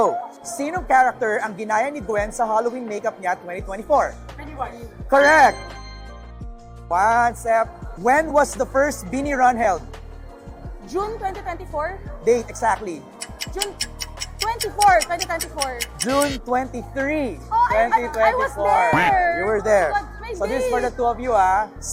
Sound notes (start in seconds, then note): 13.1 clock ticking sfx